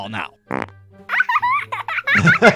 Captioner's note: device farting; eyeball giggling; laughing; quirky music